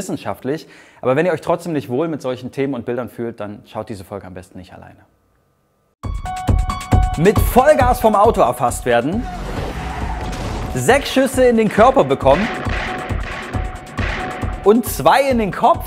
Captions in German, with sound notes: *schnelle Musik* Mit Vollgas vom Auto erfasst werden. *Motorengeräusche* 6 Schüsse in den Körper bekommen. *Schüsse* Und 2 in den Kopf?